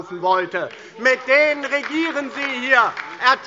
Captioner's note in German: Beifall DIE LINKE und SPD - Zurufe BÜNDNIS 90/DIE GRÜNEN